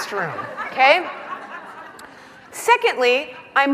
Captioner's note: laughing